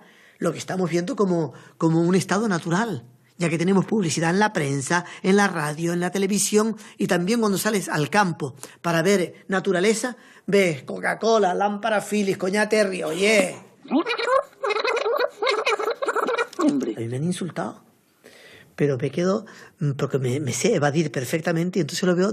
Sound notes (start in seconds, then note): 13.8 laughts